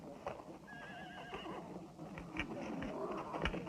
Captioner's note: horse whinnying